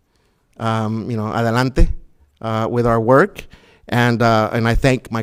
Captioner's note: foreign language